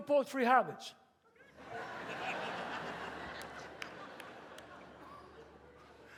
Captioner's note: audience laughs